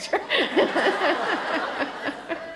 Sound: laughter

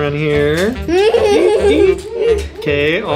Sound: child laughing

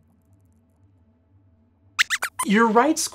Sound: squeaks

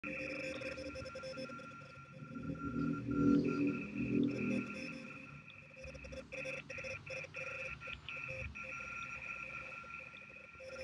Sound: double Morse Code Noises

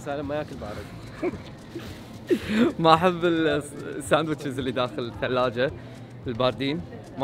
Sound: laughter

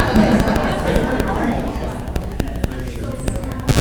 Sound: group chatting

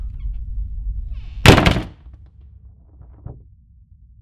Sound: door slams and sound cuts out

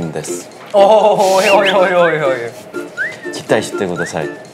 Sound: awww

